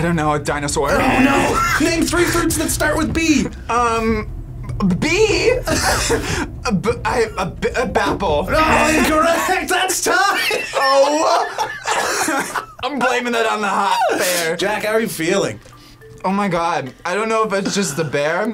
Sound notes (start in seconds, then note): 5.6 both laugh; 10.1 laughs; 10.2 coughs